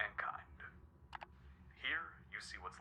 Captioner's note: clicking